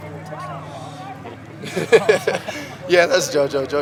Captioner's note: laughter